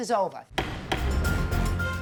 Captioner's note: intense music; gavel bangs